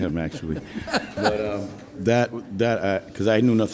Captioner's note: laughs